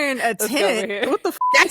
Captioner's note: beep